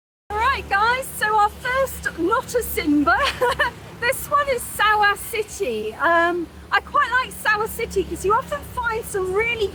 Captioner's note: laughing